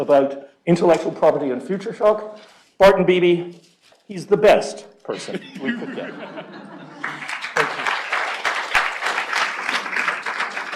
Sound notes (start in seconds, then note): 5.2 laughter; 7.0 applause